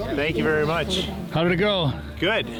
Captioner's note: people chattering distantly